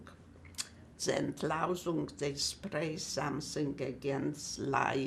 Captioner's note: german